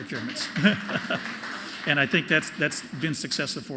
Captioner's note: applause